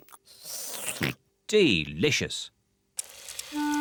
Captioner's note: slurps and oinks